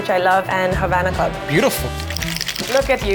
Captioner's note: shaker rattles